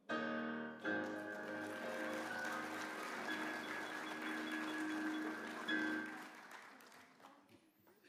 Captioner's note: applause